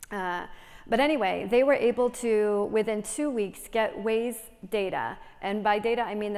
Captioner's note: none